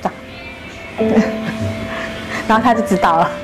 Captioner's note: shush